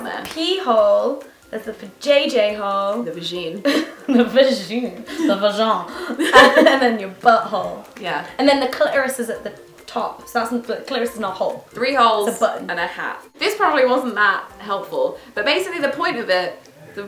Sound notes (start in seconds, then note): 3.3 laughs